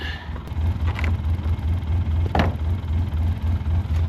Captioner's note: engine rumbling